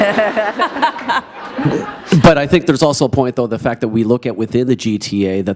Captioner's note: laughter